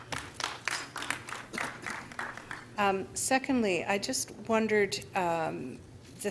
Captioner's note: applause